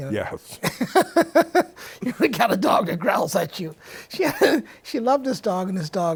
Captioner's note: laughs